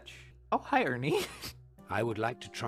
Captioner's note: laughter